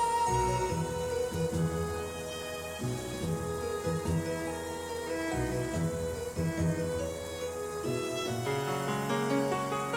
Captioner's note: falling water